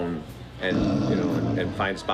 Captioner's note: snoring